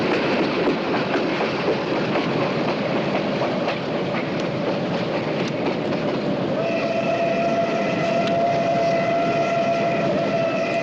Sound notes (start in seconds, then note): 6.6 engine whistle